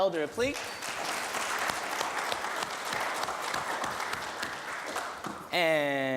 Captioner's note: applause